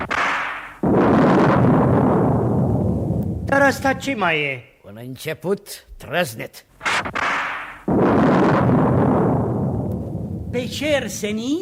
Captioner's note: sound of thunder